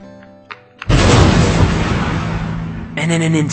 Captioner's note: explosion